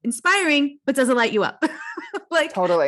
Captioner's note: laughs